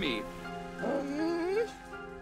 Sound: whines

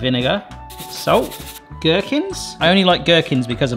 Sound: salt rustling

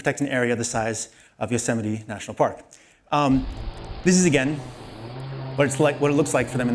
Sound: chainsaw noise

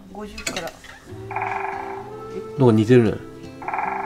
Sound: chirping

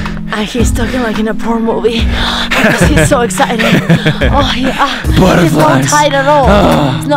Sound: heavy Breathing

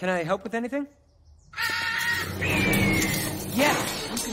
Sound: screeching

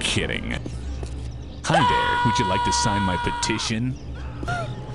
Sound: screaming, attempting to run from the inevitable

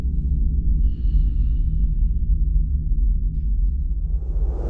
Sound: breaths heavily

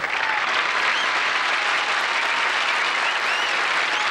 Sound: audience applause

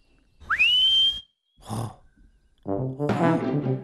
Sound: whistles

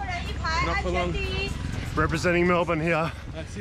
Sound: yelling in foreign language

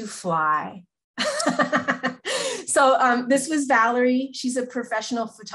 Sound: laughs

